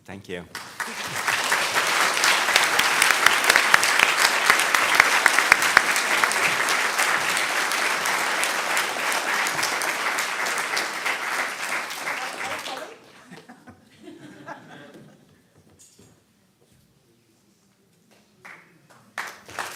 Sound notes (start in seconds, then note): 1.9 applause; 13.1 laughter